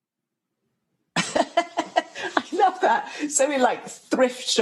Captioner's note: laughter